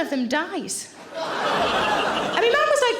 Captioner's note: audience laughing